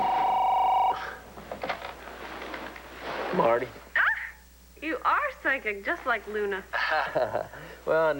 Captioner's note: telephone rings